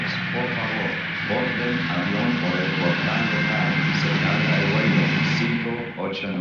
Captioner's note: man speaking in foreign language on PA